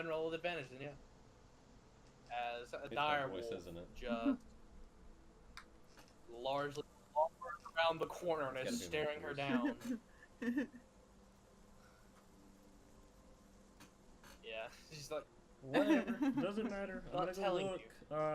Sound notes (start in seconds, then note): 9.4 laughing